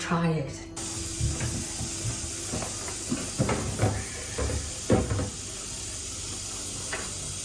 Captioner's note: sound of running water